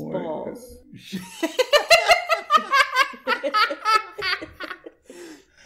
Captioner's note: have a good chuckle